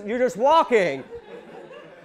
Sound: audience laughing

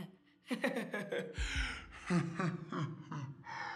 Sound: evil laughing; Isaac laughing

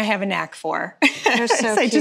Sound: laughing

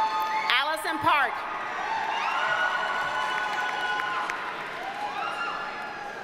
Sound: audience cheers and applauds

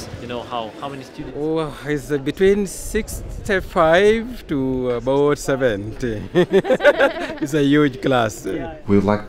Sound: laughs

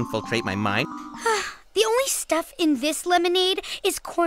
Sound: sigh

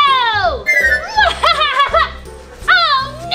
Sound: laughing

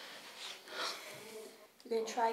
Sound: big sigh

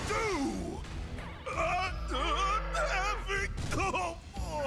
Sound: exclaiming

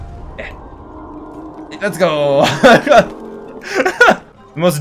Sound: laughs

